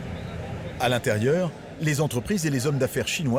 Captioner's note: people chattering